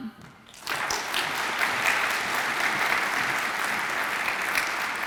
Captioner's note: audience applauds